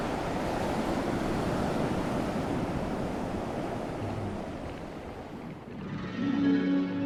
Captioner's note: waves/winds